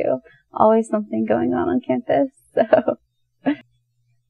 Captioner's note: light chuckle